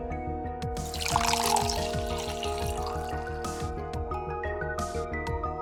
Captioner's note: sploosh